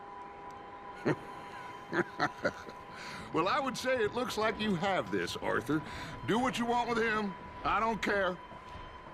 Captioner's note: laughs